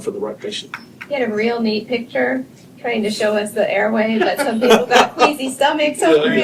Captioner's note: laughter